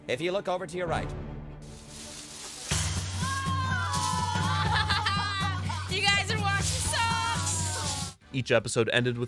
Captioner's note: kids groan and laugh